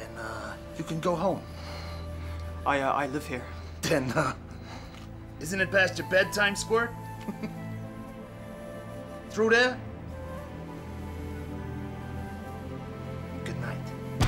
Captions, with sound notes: - Then you can go home. - I live here. - Ha, isn't it past your bedtime, squirt? (chuckles) Through there? Goodnight.